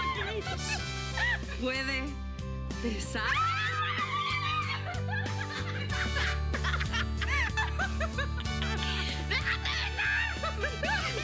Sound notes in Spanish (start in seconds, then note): 4.4 risas